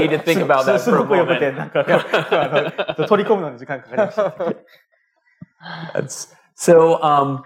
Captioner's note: speaking japanese